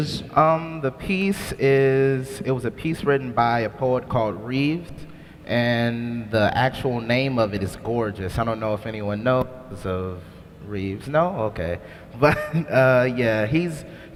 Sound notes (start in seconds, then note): 12.2 laughs